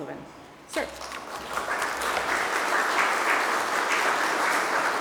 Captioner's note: applause